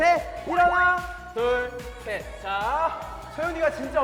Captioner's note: hurriedly